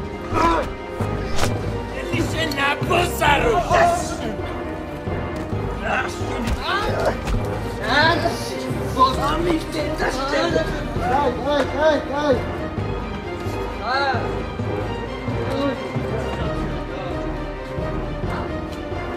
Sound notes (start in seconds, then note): 6.0 punches; 16.5 tense music